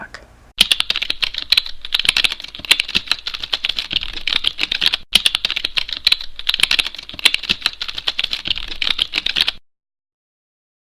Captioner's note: keyboard sound effect